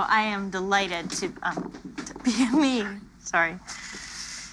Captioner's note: chuckles